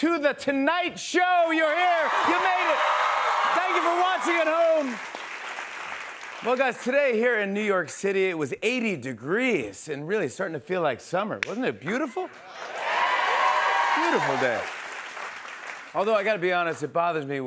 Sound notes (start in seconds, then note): 12.2 cheers and applause